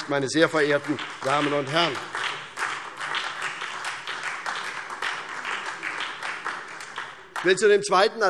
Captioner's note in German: Beifall SPD und vereinzelt DIE LINKE